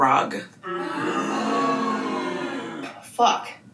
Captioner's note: background booing